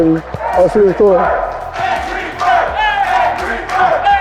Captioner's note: Crowd chants Angry Bird